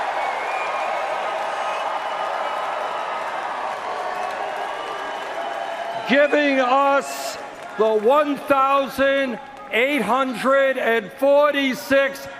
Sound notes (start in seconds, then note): 3.3 cheers and Applause